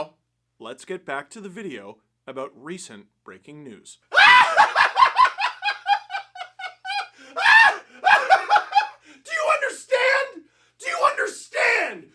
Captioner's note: laughter